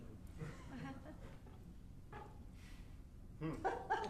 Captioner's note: audience laughing